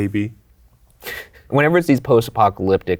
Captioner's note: chuckles